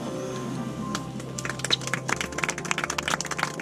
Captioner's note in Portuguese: palmas